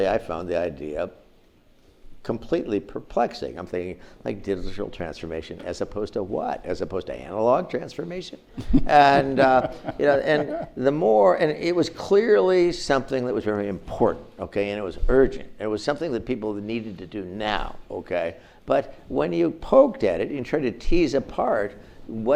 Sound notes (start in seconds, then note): 8.6 audience laughs